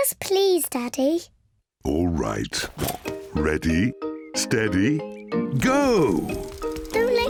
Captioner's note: snorts